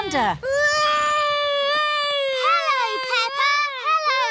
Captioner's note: continues wailing